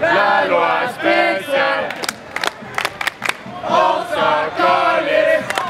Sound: protestors chanting slogan

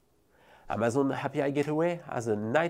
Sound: text whooshing

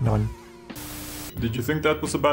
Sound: Static

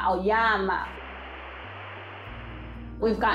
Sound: static noise

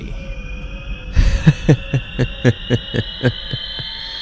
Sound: omniously laughs before epic beatboxing

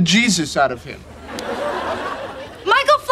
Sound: audience laughing

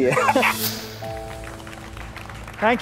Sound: applause

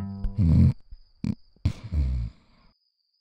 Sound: snores start to slow

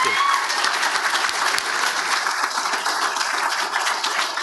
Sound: audience applauds

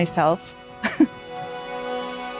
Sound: laughs

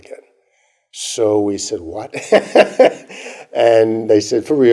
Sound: laughter

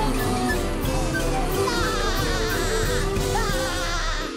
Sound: laughing

